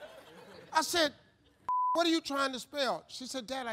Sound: audience laughing; beep

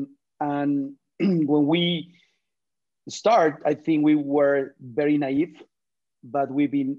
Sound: cough

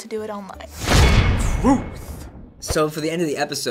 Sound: clang!

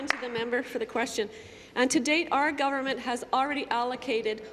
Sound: applause

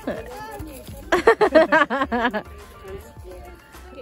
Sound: laughing

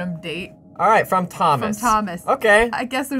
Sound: none

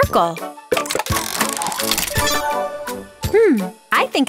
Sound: cranking

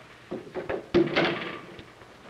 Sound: door closes

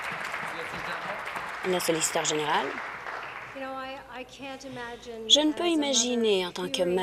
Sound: applause

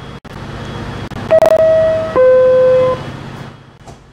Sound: door closing chime plays

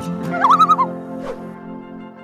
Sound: a loon calls

